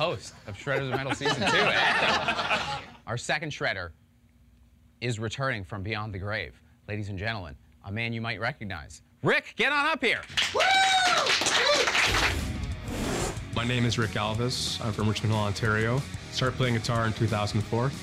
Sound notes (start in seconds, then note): 2.0 all laugh; 10.3 all cheer